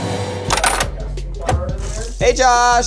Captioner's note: quarter clanks